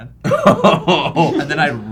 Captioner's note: guffaw